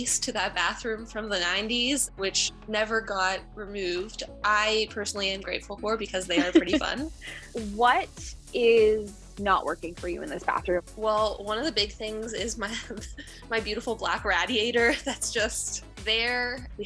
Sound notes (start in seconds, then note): 6.3 chuckles; 12.9 chuckles